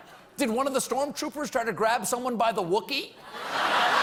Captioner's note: applause; laughter